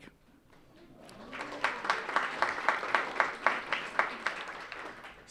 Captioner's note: audience applauding